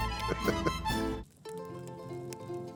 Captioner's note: chuckles